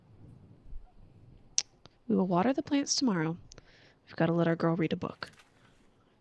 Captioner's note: clicks tongue